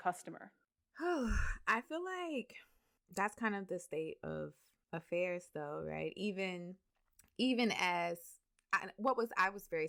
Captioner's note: sighs